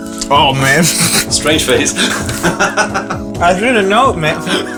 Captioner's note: laughing